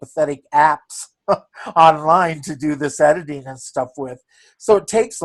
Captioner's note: chuckles